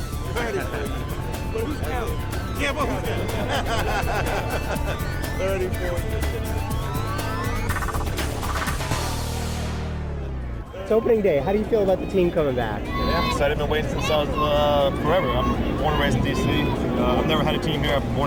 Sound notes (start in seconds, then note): 2.5 laughing; 6.7 upbeat music